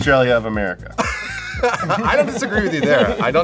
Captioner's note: laughs